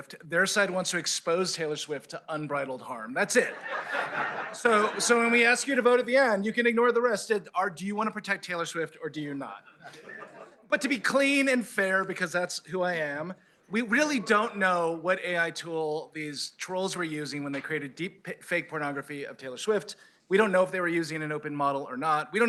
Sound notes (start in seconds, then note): 3.4 laughter